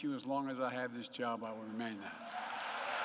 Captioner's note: applause